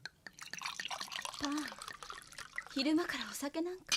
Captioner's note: SFX: pouring drink